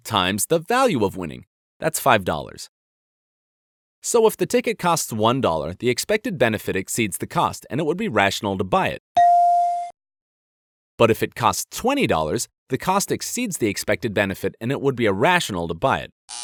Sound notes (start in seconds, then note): 9.2 ♬ Ding! ♬